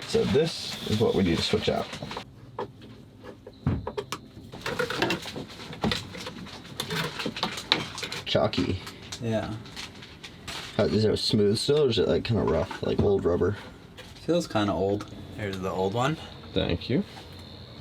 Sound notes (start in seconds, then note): 2.4 screwdriver turning; 4.5 plastic pieces clattering